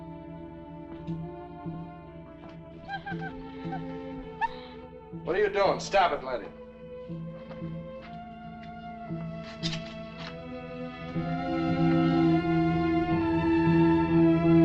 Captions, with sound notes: (pensive music continues) (dog whimpers) - What are you doing? Stop it, Laddie. (dramatic music)